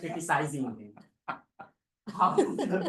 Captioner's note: laughter